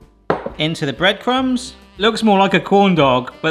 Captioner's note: bowl knocks